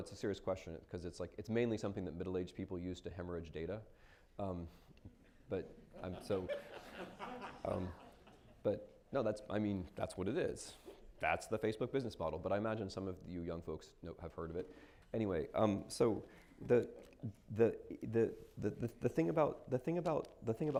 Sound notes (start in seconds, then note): 5.9 laughter